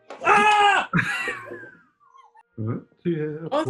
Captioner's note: laughing